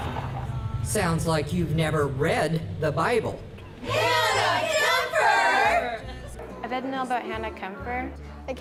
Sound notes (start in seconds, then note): 3.8 actors yelling